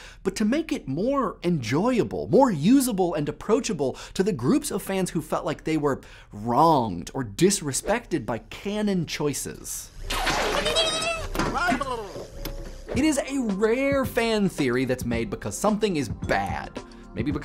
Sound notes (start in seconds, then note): 10.0 lip trilling; 10.5 exclaiming in surprise